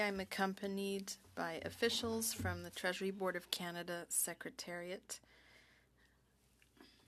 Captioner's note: speaking French